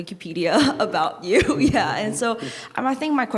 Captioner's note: chuckling